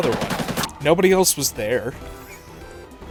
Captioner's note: wheeze